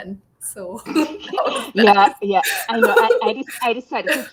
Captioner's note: laughing